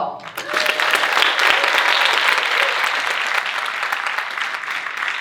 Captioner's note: audience cheering and applauding